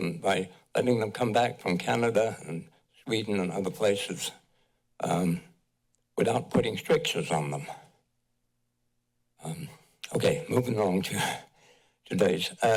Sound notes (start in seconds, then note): 7.9 pause